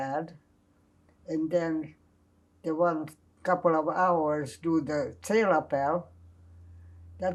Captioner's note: non-english